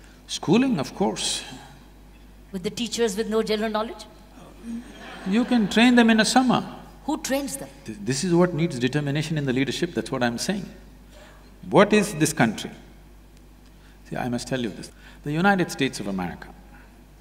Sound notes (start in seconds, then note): 4.7 laughter